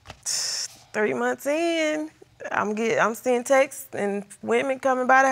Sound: exhales sharply

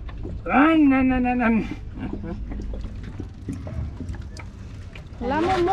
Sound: imitates boat engine; speaks in a foreign language

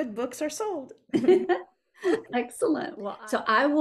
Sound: both chuckling

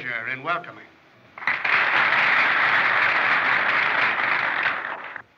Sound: applause

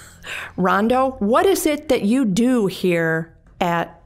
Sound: chuckling

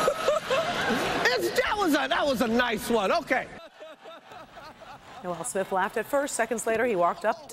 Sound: laughter

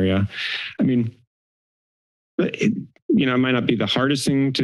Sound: inhale

